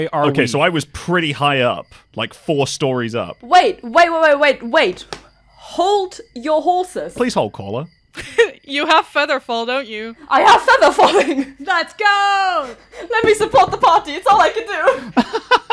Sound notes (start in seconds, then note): 8.2 chuckles; 10.6 laughs; 14.9 laughs